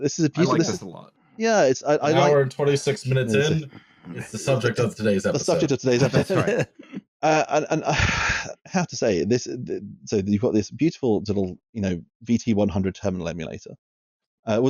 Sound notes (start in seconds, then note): 7.6 laughs